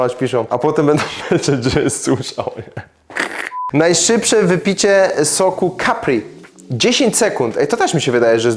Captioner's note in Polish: śmiech